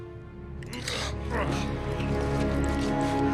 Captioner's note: Scorpius groaning